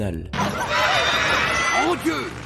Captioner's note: panic screams